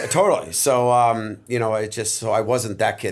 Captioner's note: chuckle